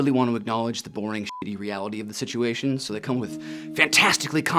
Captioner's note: beep